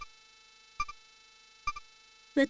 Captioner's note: silence